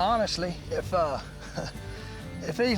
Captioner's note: chuckles